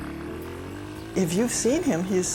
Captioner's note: motorbike roaring